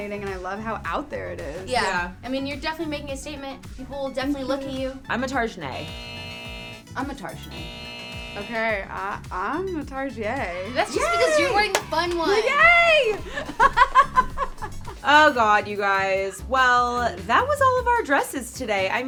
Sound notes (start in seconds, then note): 5.6 buzzer sound; 10.8 crowd cheers; 13.9 laughs